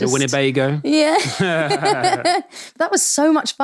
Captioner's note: both laughing